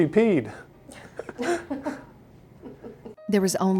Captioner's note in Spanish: Risas